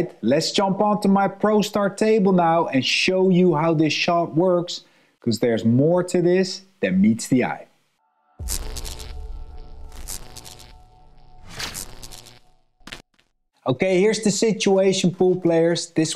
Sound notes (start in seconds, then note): 8.4 text buzzing